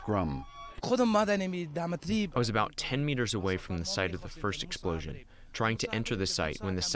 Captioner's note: through translator